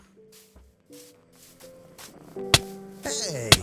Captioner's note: angry enderman sound